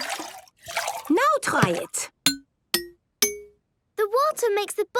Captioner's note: pitched tinks